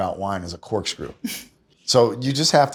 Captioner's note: laughs